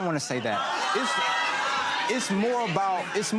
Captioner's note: laughing